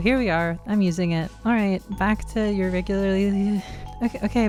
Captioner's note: sigh